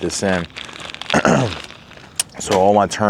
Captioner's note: clears throat